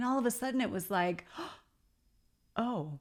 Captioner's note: gasping